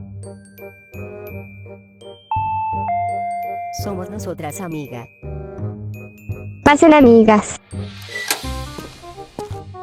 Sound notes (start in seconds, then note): 2.3 the doorbell rang; 7.9 opening and Closing the door